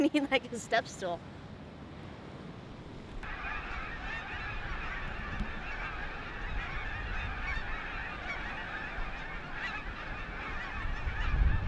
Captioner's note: honking geese